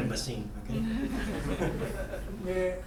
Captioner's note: students laughing; speaking in foreign language